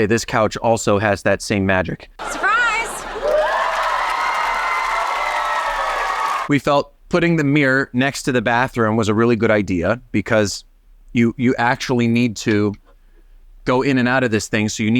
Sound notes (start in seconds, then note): 2.2 audience cheering